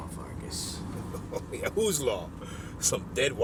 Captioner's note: laughs